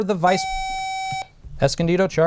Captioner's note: buzzer